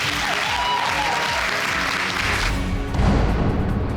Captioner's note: audience cheering